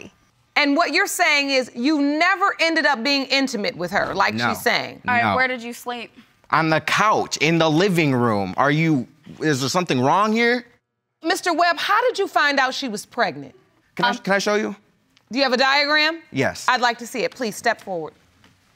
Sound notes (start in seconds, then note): none